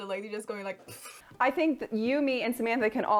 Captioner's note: imitates deflating balloon